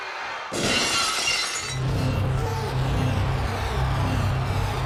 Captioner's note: glass shatters; pensive music